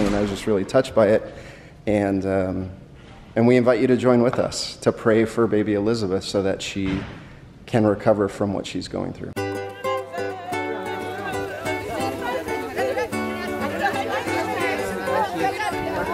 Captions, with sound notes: And my family and I were just really touched by it. We invite you to join with us, to pray for Baby Elizabeth so that she can recover from what she's going through. (happy chatter)